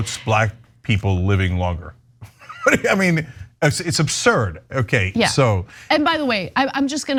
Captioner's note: laugh